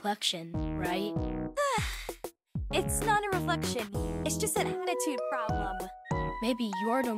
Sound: sighs

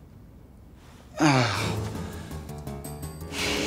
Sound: sighs

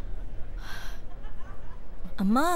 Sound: sighs

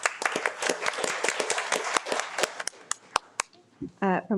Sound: audience applauds

